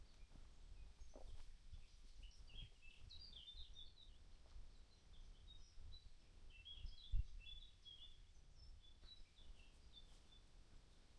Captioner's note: birds chirping